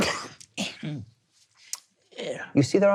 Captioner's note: throat clearing